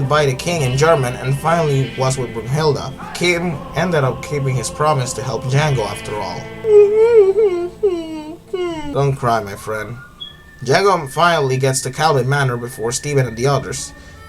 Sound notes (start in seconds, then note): 6.4 crying